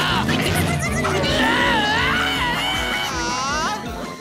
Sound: screaming

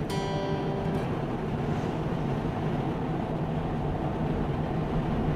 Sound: car driving

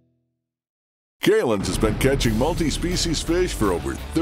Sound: voiceover

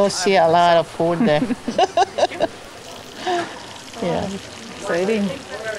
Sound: laughing

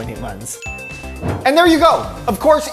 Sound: bell dings

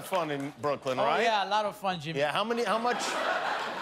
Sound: laughter

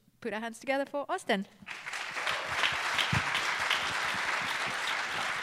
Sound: applause

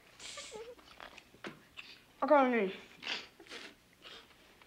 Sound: Betsy sniggers

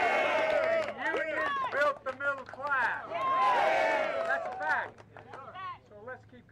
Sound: applause

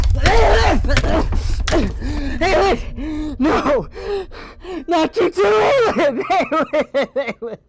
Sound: sobbing

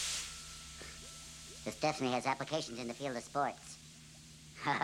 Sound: high-Pitched Voice

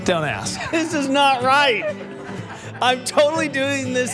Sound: guys laughing

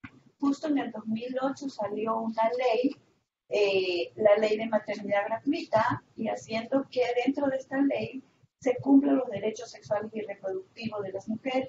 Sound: Spanish

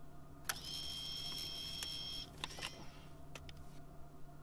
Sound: machine whirring

